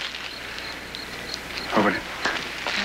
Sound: claps hand

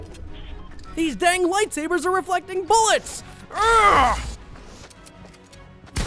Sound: grunts

